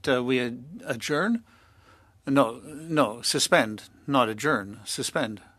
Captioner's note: speaking French